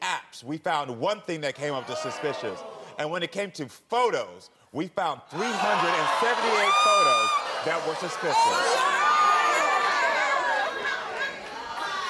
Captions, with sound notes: we found one thing that came up suspicious. And when it came came to photos, (audience yells) we found 378 photos that were suspicious. (audience clamors)